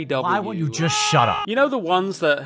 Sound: man screams

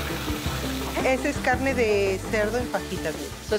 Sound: speaking Spanish

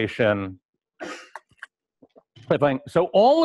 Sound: pause

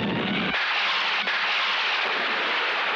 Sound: thunder crashing

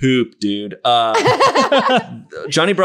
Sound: laughing

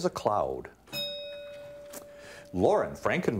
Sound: bell ringing

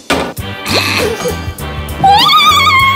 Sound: Laughing Mouth malfunctioning

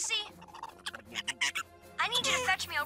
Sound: chirping

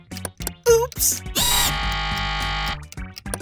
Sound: buzzing ringing

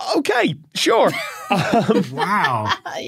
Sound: laughs

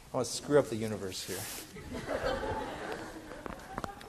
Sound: class laughing

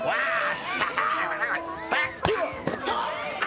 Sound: laughs

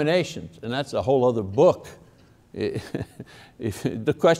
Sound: laughs

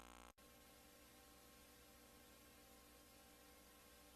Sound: VHS static

